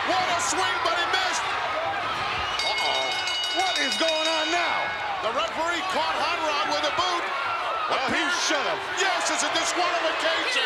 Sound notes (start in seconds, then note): 2.6 bell ringing